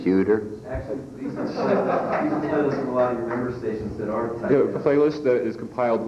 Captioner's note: laughter